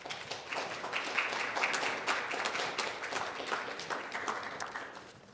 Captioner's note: audience applauding